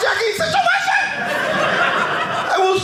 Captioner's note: audience laughing